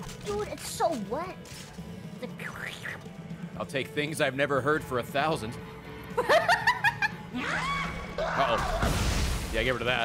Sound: laughs

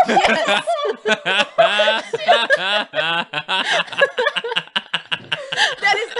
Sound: Laughter at Jacob's Expense

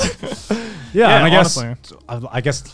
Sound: laughing

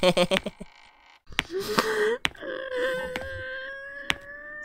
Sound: chuckles; whimpering

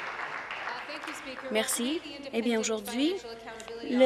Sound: applause

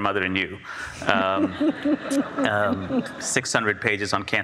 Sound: audience laughs

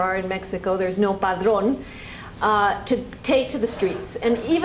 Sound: spanish

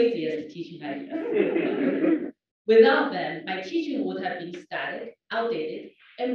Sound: laugh

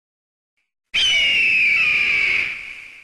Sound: eagle cries

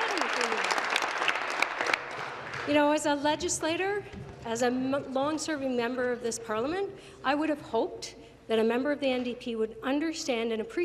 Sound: some Applause

